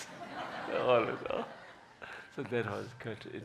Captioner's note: laughing